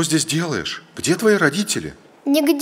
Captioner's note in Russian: мужской голос за кадром